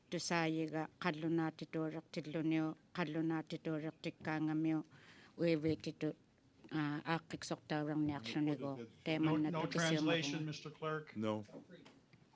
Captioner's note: alternate language spoken